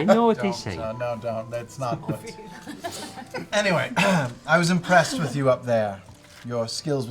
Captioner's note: clears throat